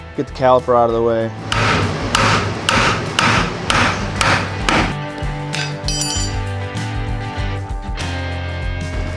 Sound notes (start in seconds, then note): 1.4 banging metal; 5.2 country rock music